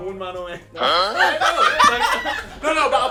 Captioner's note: all laughing